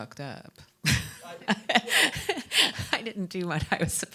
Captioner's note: laughing